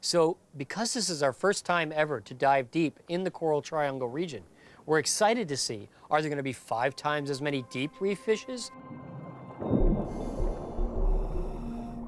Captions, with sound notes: So because this is our first time ever to dive deep in the Coral Triangle region, we are excited to see, are there going to be five times as many deep reef fishes? [divers submerging]